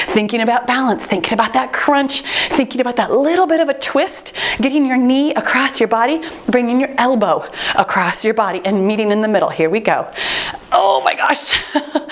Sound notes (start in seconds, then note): 8.0 timer beeps; 11.6 chuckles